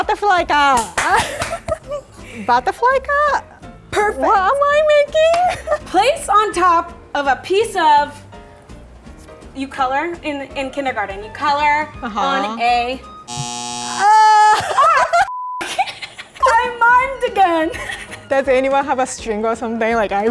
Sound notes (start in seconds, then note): 0.7 clapping; 13.2 buzzer; 16.1 beeps; 17.7 laughing